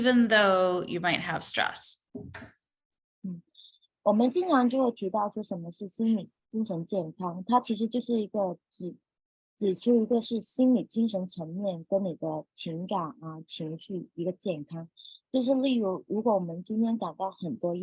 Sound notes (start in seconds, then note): 3.5 speaking chinese